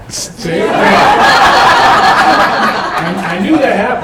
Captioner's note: laughter